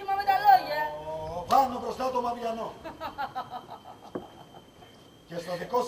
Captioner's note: γέλιο